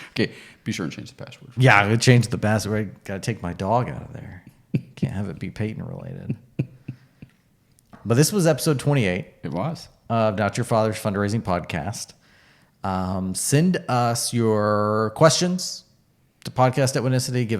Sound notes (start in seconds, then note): 6.2 laughing